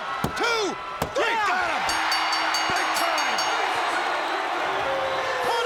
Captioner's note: bell rings